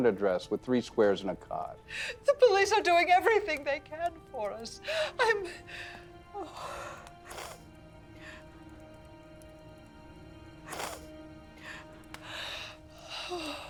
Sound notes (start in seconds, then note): 5.0 crying; 6.8 dramatic music